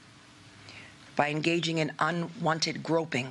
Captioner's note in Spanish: HABLAN EN INGLéS